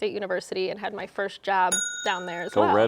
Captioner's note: bell ringing